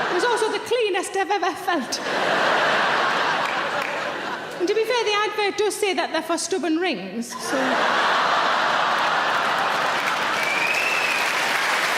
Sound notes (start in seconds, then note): 1.8 audience laughs; 7.3 audience laughs and claps